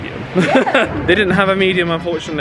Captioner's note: laughs